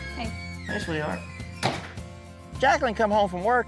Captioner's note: door closes